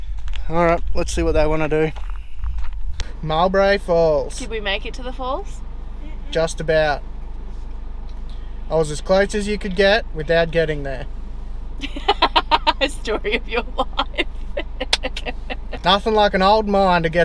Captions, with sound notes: alright lets see what they wanna do Mowbray falls Did we make it to the falls? just about I was as close as you could get without getting there (strange witches cackle) story of your life nothing like an old mine